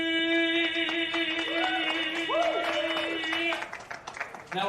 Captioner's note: cheering